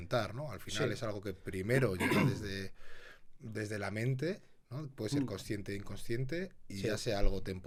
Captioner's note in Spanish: carraspeo